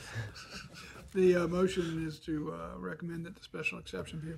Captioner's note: laughter